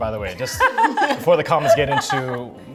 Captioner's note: members laugh